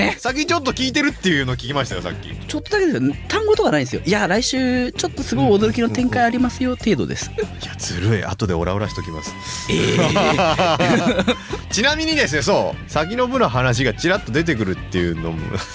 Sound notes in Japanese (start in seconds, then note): 9.6 鼻息; 9.6 笑い